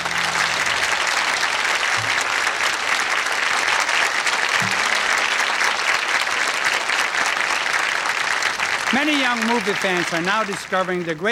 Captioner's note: applause